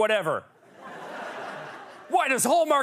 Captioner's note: laughter